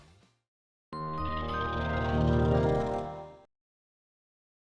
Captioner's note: gentle chime